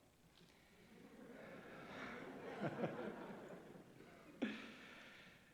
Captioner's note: laughter